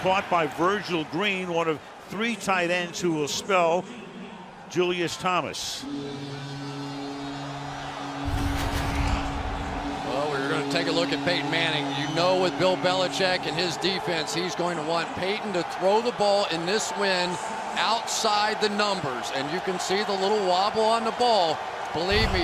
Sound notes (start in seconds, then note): 5.8 horn blows; 8.5 cheering